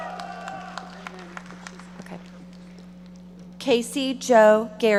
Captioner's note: audience applauding